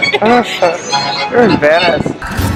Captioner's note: laughs